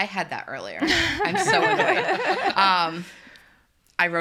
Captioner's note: group laughs